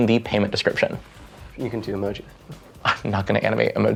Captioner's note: blowing air